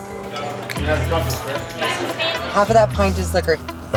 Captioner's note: chatter